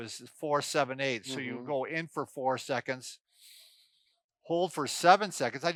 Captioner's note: breathes in deeply